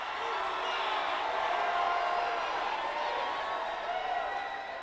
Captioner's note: crowd exclaiming